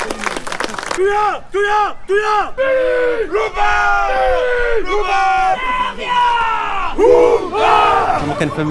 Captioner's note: war cries